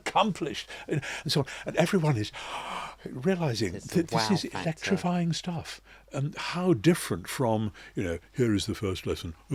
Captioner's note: gasp